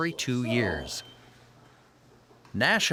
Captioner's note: beeping sound